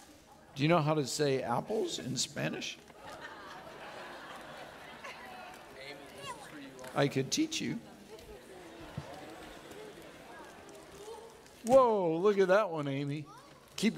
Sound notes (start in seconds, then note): 2.9 audience laughing